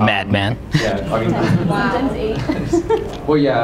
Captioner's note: laughter